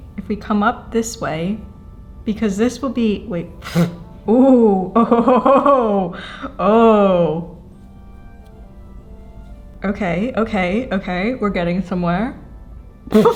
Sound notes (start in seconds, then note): 3.5 blowing hair raspberry